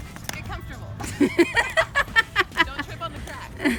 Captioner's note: laughs